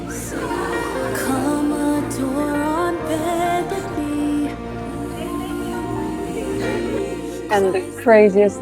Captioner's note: chats and laughter